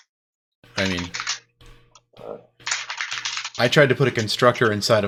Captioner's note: keyboard keys clanking